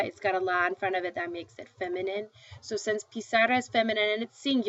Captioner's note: speaking spanish